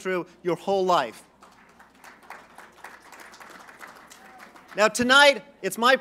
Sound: applause

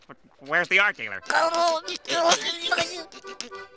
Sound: laughing

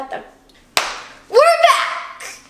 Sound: hand clapping

